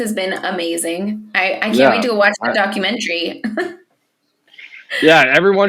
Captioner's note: laughs